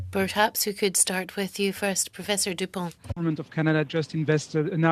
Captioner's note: speaking in French